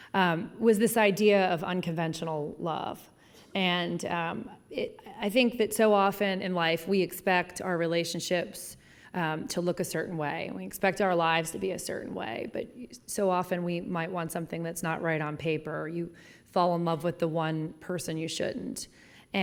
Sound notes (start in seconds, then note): none